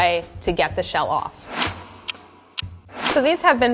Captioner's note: clock ticks